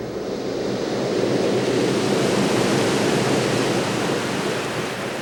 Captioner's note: ocean waves roar